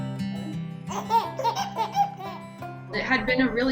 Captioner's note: baby laughing